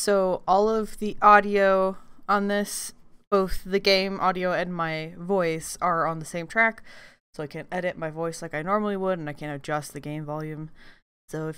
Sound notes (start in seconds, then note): none